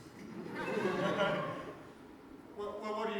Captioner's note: audience laughter